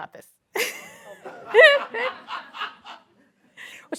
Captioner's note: laughter